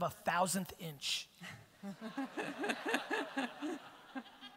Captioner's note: audience laughter